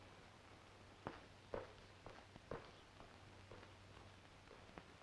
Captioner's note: none